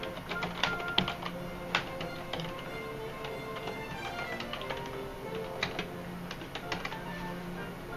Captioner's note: typing noises